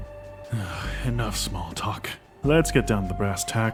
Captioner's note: sighs